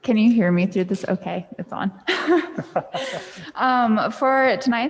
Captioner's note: laughs